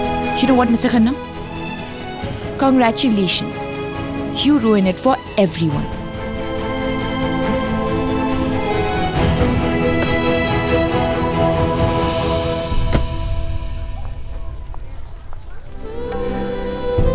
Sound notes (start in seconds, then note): 9.9 Car door opens; 12.7 Car door closes